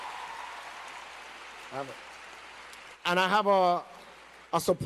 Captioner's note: applause